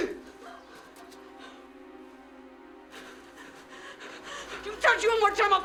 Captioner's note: panting